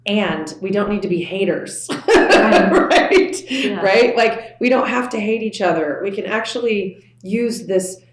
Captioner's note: laughs